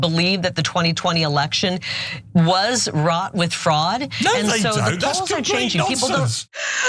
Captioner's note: laugh